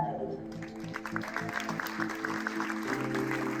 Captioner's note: cheers and applause